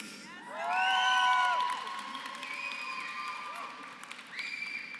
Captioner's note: applause